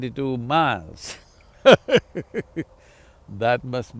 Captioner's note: laughs